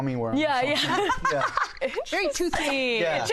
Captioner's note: laughter